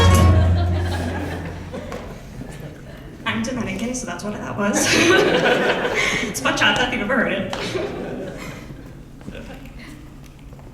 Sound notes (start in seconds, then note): 0.0 audience laughs; 4.7 laughing